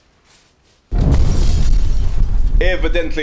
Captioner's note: fwoosh